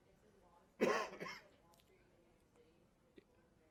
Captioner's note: voiceover